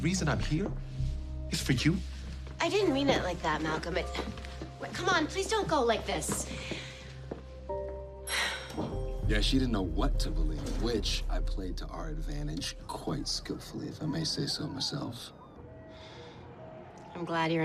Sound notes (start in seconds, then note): 8.3 sighs